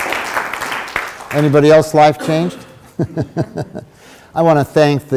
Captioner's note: laughs